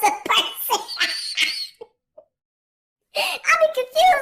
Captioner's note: laughing